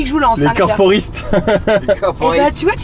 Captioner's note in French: rires